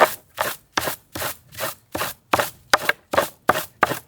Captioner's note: wood bangs